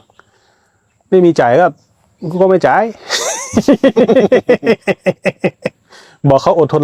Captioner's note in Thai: เสียงหัวเราะ